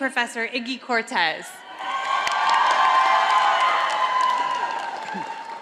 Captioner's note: audience applauding